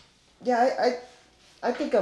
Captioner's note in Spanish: tartamudeando